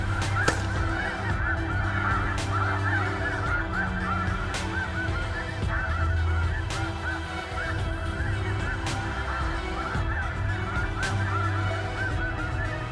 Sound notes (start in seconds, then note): 0.2 gun shot; 1.7 goose calls